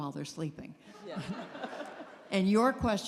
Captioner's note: laughter